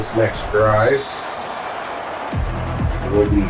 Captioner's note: crowd Noises